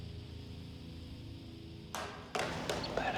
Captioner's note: clattering